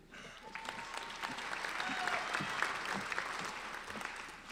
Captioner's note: applauding